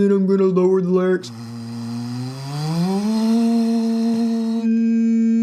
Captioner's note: content creator vocalizing